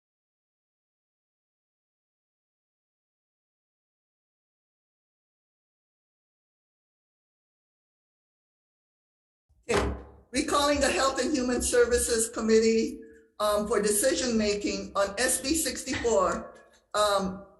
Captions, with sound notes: (gavel bangs) Recalling the Health and Human Services Committee for decision making on SB-64.